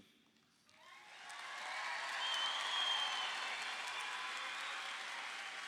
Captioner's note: audience applauding